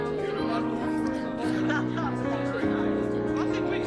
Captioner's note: laughter